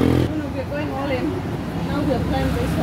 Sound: chatter

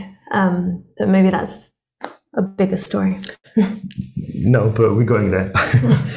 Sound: laughing

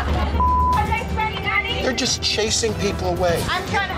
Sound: beep

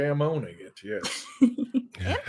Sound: laughing

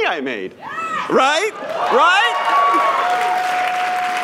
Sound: cheers; applause

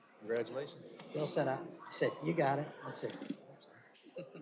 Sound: laughter

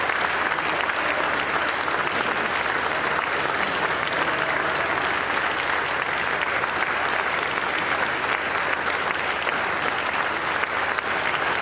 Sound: continued applause

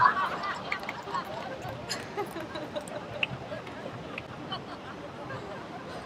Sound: laughter

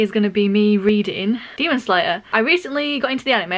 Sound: none

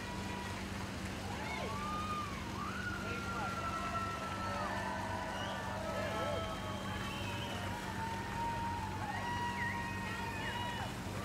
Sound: cheers and applause

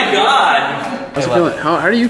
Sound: buzzing sound

